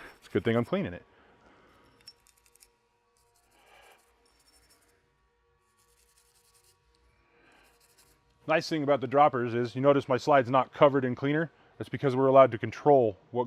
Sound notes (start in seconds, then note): 2.6 brush scratches